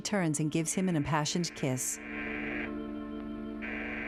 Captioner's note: doorbell buzzing